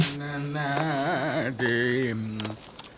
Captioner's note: humming